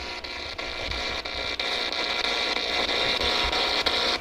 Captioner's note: static buzzing